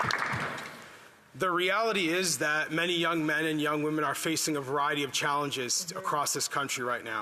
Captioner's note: applause